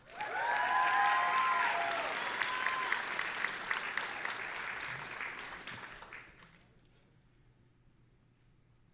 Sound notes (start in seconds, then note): 0.0 audience applauding and cheering